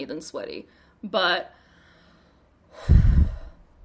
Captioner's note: sighs